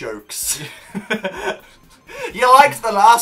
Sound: smol laughs

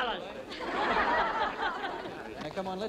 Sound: crowd laughing

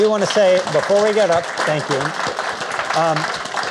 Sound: audience applauding

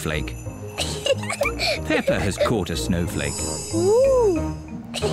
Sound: giggles; both giggle

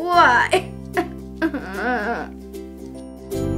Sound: sob, sob

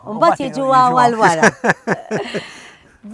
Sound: laugh

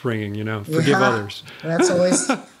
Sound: chuckle

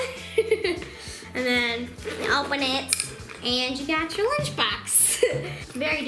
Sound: laughs; laughs

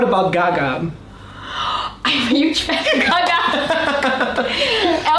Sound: inhales

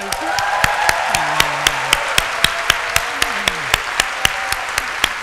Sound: applause

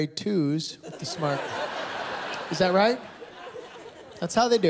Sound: laughter

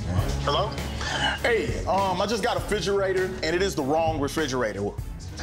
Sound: voice on phone

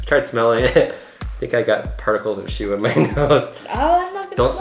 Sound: laughs

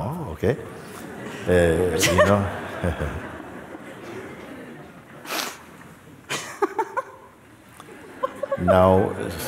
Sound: laughter

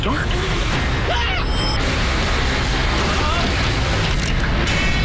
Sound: screams

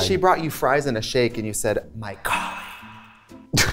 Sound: whispers; laughter

